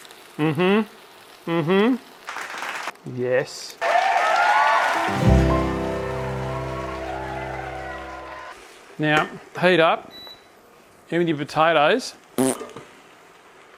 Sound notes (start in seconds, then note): 12.3 blows raspberry